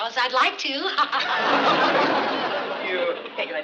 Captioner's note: laughing